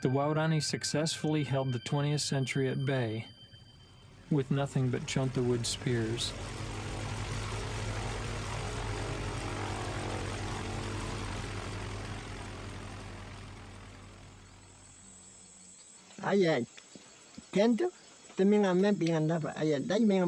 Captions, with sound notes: the Waodani successfully held the 20th century at bay with nothing but junk and wooden spears. (plane engine roaring) - (speaking in foreign language)